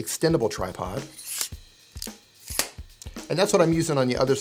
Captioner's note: tripod squeaks